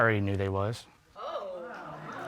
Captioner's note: audience exclaims